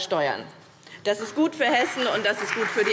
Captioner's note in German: Beifall BÜNDNIS 90/DIE GRÜNEN und vereinzelt CDU